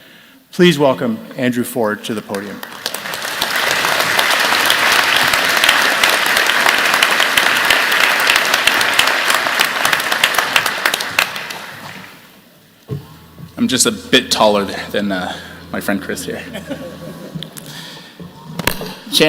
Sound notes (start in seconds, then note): 4.2 applause